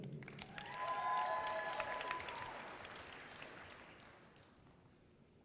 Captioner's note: audience cheering loudly